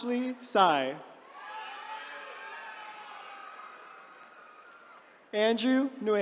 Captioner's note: attendees cheering